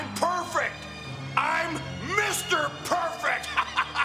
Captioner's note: laugh